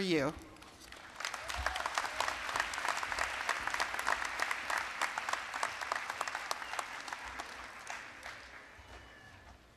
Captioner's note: applause